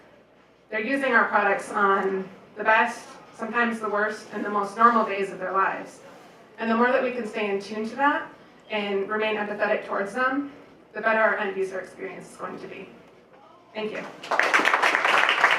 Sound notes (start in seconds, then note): 14.0 applause